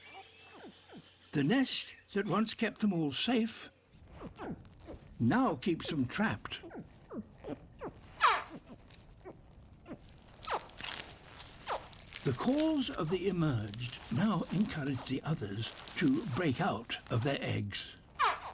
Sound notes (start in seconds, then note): 6.4 gulping squeaks and honks